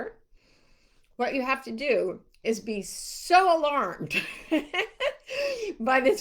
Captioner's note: laughs